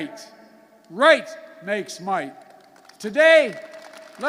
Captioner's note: applause